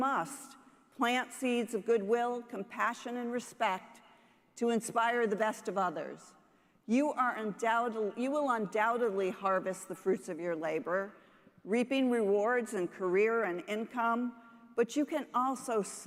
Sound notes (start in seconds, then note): none